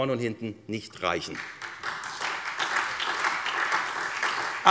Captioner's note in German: Beifall SPD